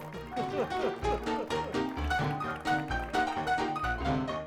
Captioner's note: cheery music; laughs; cheery music continues